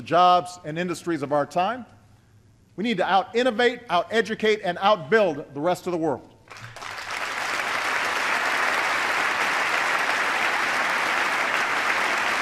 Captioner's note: applause